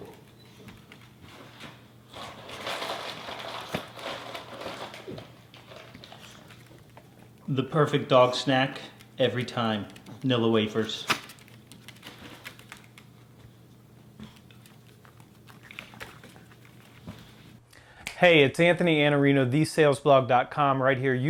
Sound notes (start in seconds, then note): 2.1 dog snack box crumples